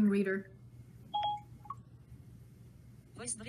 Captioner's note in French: le téléphone carillonne